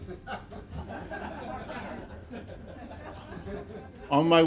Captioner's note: audience laughing